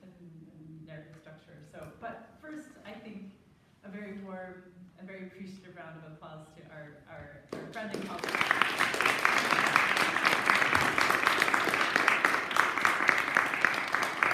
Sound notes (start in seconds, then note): 7.5 applause